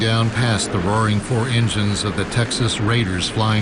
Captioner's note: roar of engines natsot